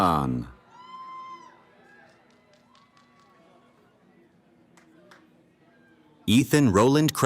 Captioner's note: cheering